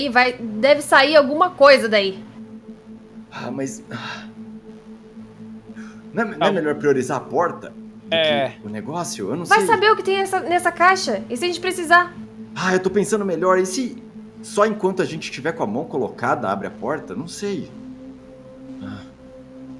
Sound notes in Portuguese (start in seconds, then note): 3.9 Suspiro